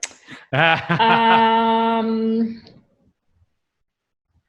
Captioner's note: laughs